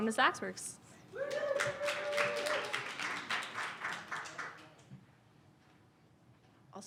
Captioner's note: audience cheers and applause